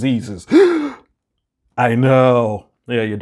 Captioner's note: gasps